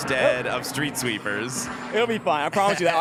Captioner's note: helicopter flying